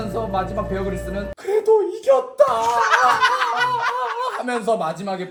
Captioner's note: cry